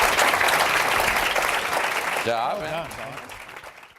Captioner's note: applause